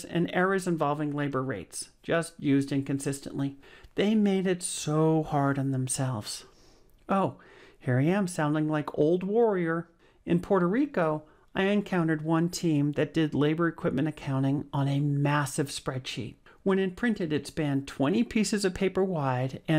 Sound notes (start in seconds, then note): none